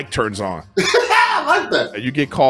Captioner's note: laughs